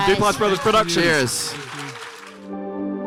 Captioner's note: audience applauding; gentle music